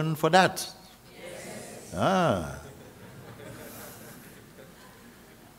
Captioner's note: γέλια